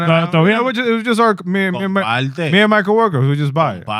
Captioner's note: speaking Spanish